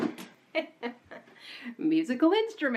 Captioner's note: laughing